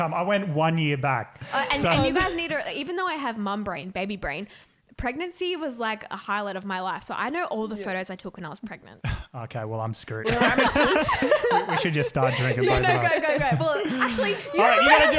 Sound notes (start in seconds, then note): 10.2 laughing